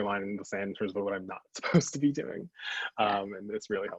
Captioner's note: chuckles